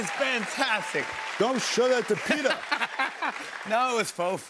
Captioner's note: laughs